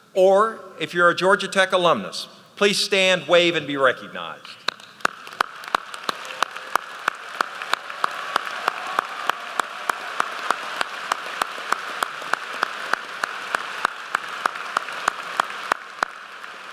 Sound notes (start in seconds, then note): 5.6 applause